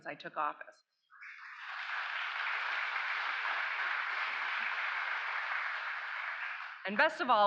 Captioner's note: applause